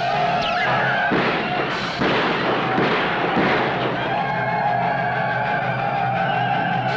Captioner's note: Yaqui shouting; gunshots blasting; Yaqui shouting